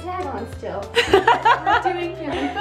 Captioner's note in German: lacht